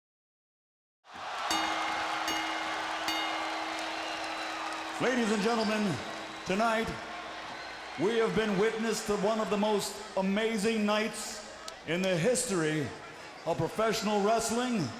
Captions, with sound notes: (crowd cheering) (bell dinging) Ladies and gentlemen, tonight we have been witness to one of the most amazing nights in the history of professional wrestling-